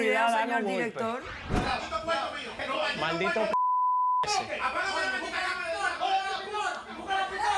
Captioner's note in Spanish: Bip